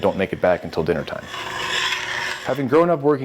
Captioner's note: spoon scraping